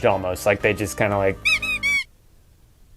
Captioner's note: squeaky toy squeaks